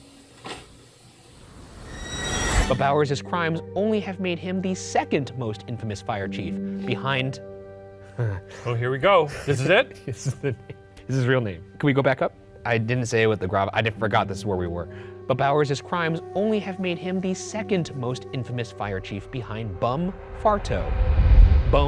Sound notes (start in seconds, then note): 0.3 object thumps; 9.3 laughs; 9.3 chuckles